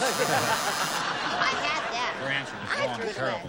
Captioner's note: buzzer